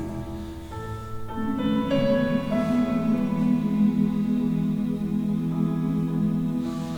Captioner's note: humming